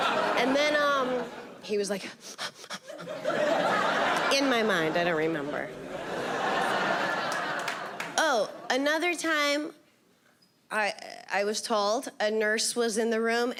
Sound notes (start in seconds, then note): 2.2 huffing